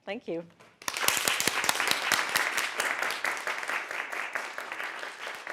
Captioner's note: audience clapping